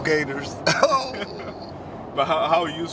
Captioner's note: laughter